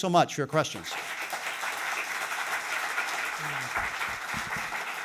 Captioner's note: audience applauding